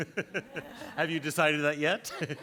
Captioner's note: audience laughs